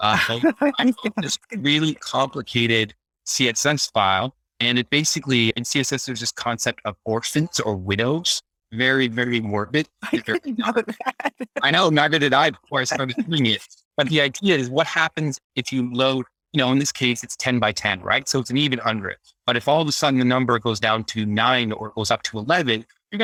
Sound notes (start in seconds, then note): 0.1 laughs; 10.0 laughs